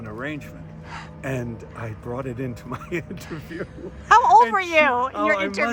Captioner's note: laughs